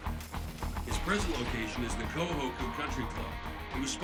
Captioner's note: over comms